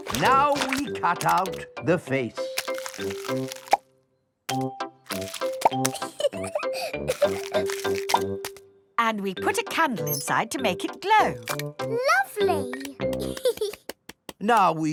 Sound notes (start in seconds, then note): 5.8 laughing; 13.1 giggles